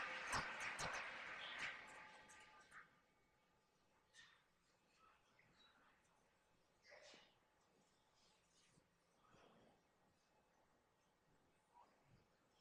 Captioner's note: silence